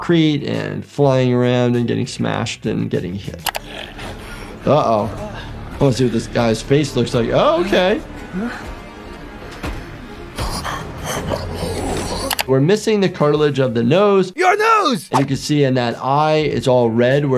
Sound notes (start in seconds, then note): 3.5 villain grunts; 8.6 ominous music; 10.6 villain grunts